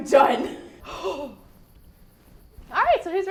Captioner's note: exhales